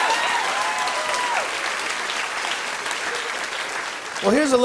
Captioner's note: applause